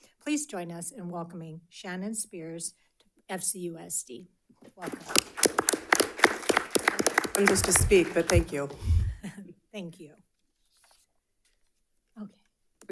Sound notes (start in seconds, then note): 4.8 audience applauding; 4.8 applauds